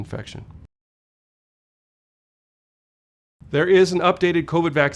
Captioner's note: no audio